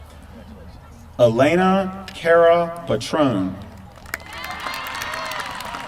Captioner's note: applause